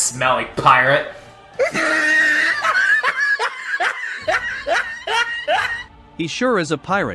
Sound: laughs

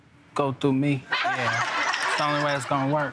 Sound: everyone laughing

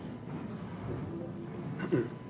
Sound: speaking foreign language

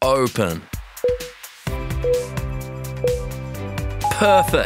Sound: timer beeping

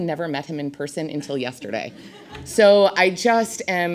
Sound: audience laughs

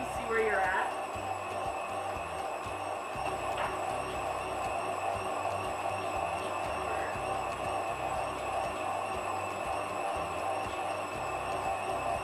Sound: whirring sounds

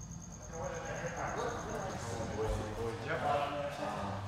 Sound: people chattering

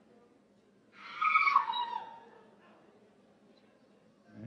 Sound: woman screams

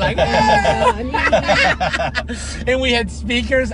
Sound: laughing

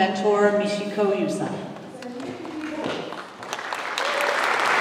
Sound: applause

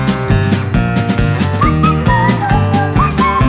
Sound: whistle

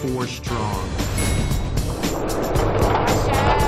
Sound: ding

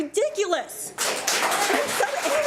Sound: audience applauds

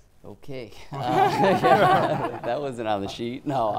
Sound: audience laughing

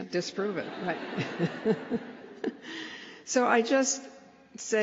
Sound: laughter

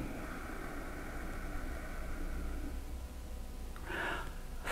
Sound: exhales

